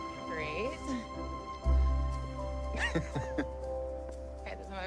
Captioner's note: Ryan chuckling